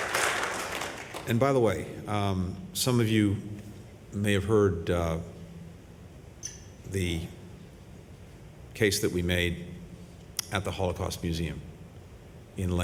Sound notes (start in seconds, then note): 0.0 applause